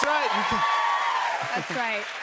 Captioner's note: cheers and applause